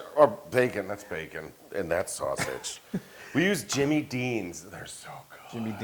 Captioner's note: laugh